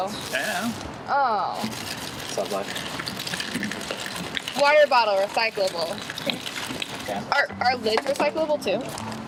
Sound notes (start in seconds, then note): 1.5 water spilling